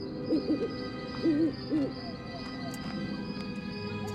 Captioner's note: owl hoots